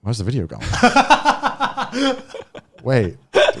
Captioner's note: laughing